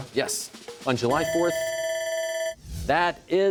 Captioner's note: bell ringing